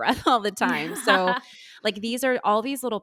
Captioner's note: laughing